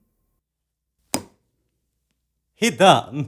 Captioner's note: thump